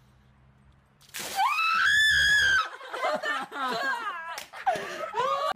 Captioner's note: yells